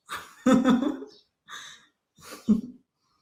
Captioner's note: laughs